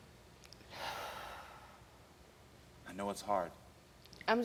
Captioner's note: sighs